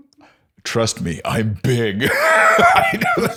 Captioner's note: laughs